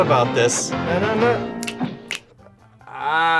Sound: both snap fingers

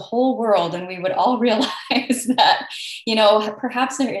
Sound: laughs

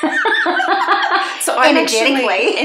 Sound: both laughing

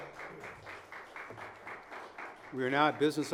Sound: audience applauding

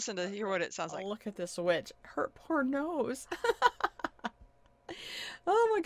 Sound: laughs

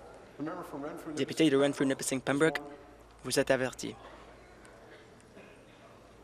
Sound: conversation din

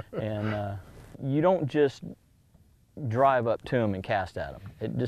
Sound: laughter

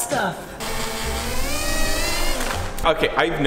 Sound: machine whirring

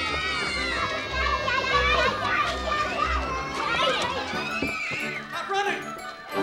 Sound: all shrieking

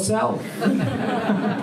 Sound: laughter

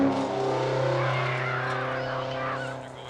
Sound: screams

